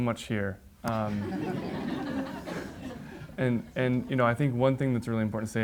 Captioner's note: audience laughs